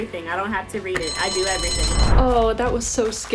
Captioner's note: bell dinging